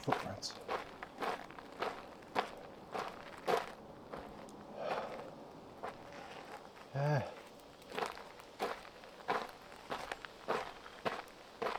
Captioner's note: wind